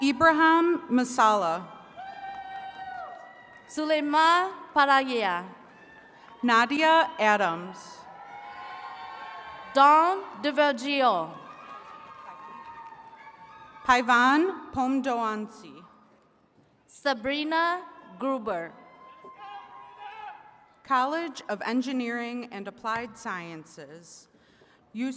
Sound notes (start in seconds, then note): 1.7 attendees cheering and clapping; 7.3 attendees cheering